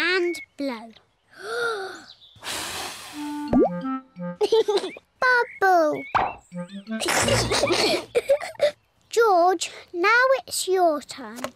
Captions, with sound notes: Then, take a big breath and blow. (TAKES BIG BREATH AND BLOWS) (LAUGHS) Bubble! (BOTH GIGGLE)